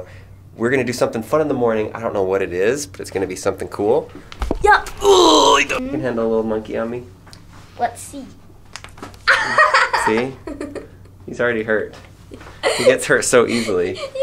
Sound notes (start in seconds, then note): 5.0 grunts; 9.2 laughs